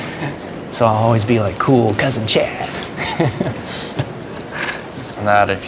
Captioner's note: laughs